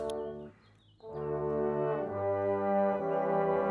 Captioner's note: speaking French